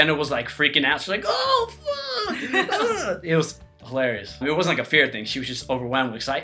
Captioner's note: laughs